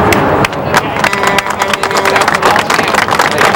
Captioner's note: applause